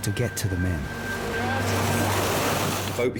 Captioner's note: water splashing